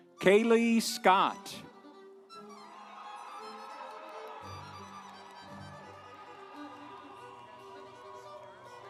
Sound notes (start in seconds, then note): 1.1 instrumental music; 2.4 audience cheering